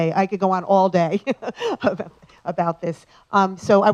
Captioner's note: laugh